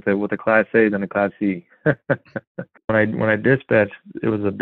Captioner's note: laughs